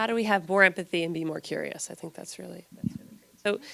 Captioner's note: gentle speaking